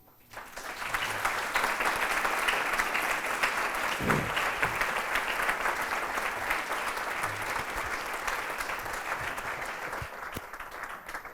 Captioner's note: applause